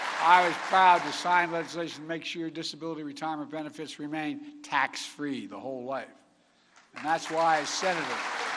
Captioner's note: applause